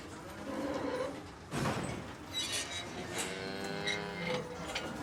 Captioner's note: gates rattling; cows lowing